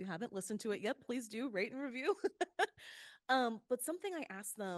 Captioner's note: laughs